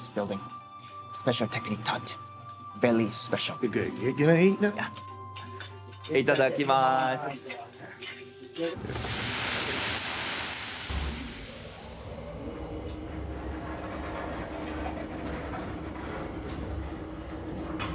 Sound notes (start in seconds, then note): 6.4 speaking in foreign language